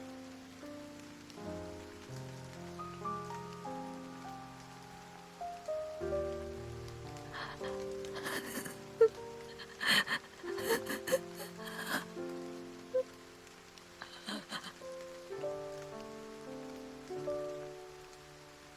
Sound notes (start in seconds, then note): 7.2 sobbing